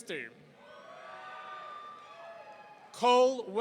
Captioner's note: audience cheering